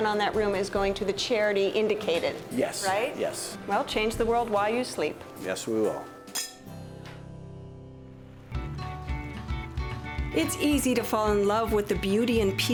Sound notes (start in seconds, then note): 5.8 glasses clinking; 8.6 upbeat music